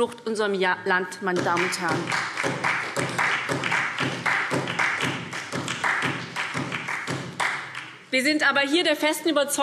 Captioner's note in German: Beifall SPD